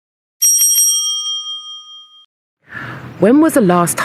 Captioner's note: bell rings